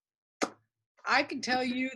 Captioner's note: pops lips